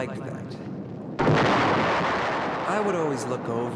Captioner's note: thunder roaring